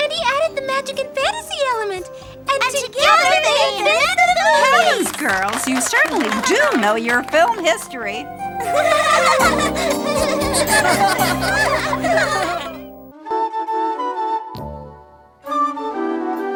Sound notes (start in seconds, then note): 3.0 children applauding; 8.6 children giggling; 8.9 gentle music; 13.6 lively music